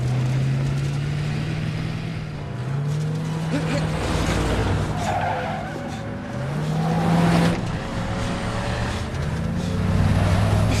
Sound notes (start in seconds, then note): 3.3 exclaims; 4.9 tires squealing; 8.1 chaz panting